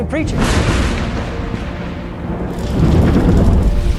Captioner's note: thunder